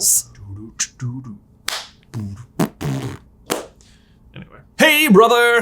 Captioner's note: beatboxing